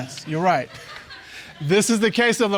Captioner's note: audience laughs